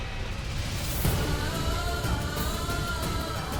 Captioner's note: poignant vocalisation